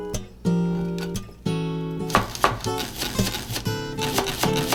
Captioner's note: speeded up chopping sounds